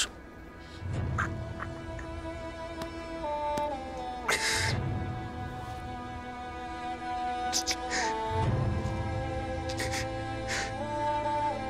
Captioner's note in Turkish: Ağlama Sesi